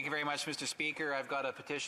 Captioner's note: speaking French